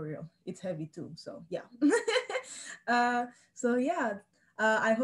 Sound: laughs

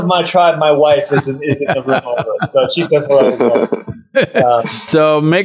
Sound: Sadhguru and Gustaf Skarsgard laugh

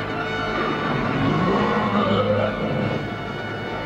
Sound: Corpse groans

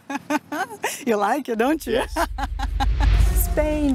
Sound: laughs

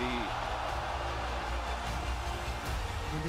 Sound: applause

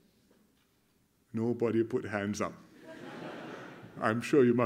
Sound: laughter

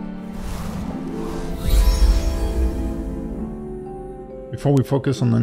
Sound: tranquil music; screen whooshing

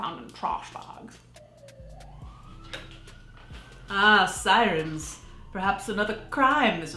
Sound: siren wailing

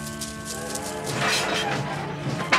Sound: train whistle blows

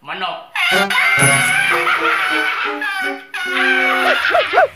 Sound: laughing

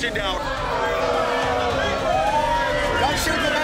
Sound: patrons protesting

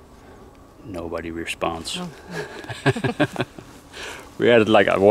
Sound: laughs

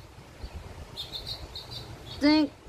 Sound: bird is whistling

